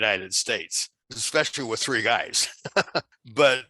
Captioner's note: laughs